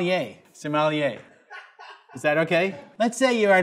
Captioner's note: off-screen person laughs